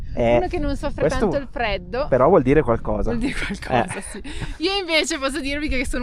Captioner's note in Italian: risate